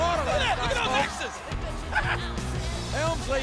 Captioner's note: Jerry chuckling